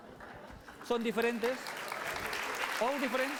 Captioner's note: laughter, applause; non-english speech